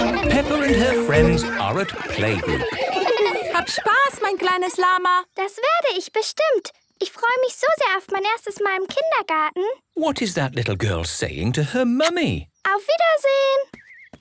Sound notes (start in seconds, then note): 3.0 laughter; 3.0 speaking German